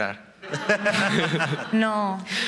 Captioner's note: laughing